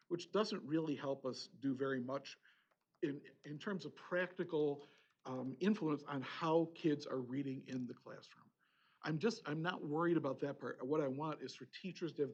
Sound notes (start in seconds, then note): none